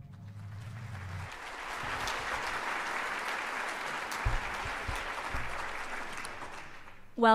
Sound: applause

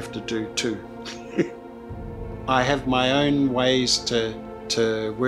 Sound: laughs

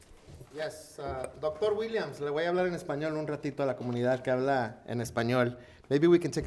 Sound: speaking in foreign language

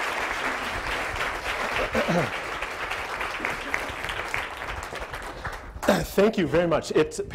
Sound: audience applause

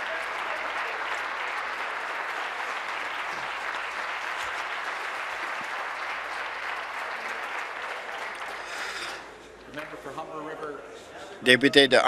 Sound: applause

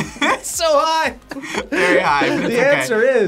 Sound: laughs

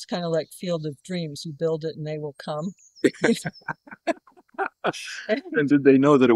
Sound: laughter

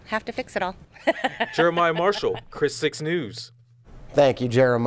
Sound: laughs

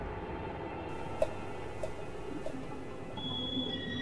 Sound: drips Of Liquid

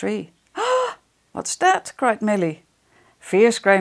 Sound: gasp

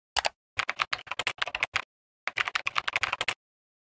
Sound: keyboard clicking

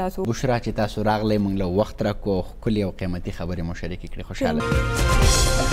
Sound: speaking in foreign language

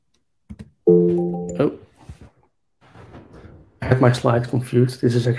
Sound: electronic ringing

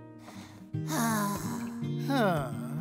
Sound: sighs

